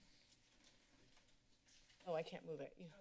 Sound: papers flipping

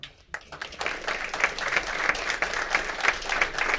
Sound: all clapping

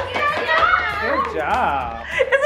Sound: everyone cheers and applauds

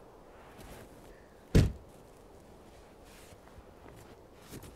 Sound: door closing

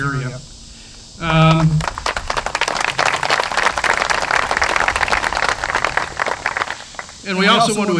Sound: applause

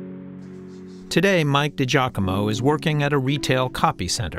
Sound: voice-over

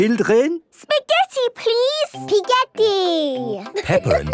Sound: laughing

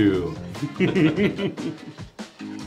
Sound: chuckling; upbeat music

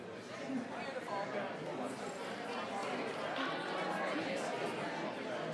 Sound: people chattering

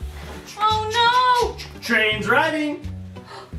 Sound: choo choo sounds

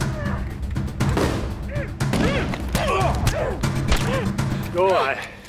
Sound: grunting

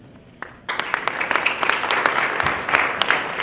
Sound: applause

